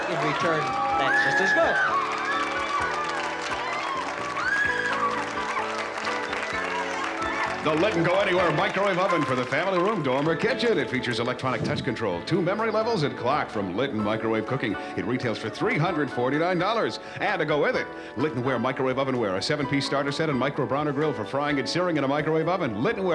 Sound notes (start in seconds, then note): 2.5 applause